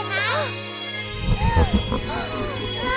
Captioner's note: small gasp; gasp; gasps